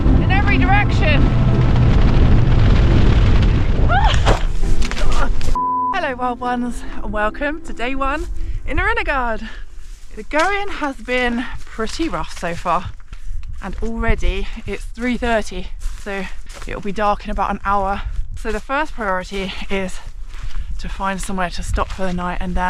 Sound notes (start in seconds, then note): 1.7 strong wind